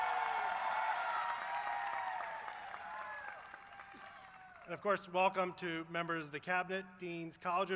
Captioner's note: cheers and applause